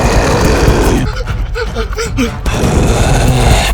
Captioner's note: explosion sound; exhales; explosion sound